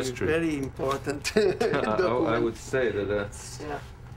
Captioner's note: laughs